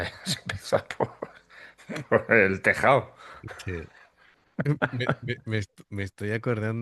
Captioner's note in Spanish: risas